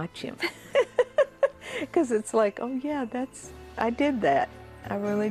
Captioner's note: laughs